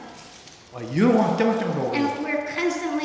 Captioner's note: speaking tibetan